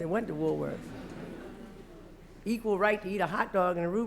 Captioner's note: laughter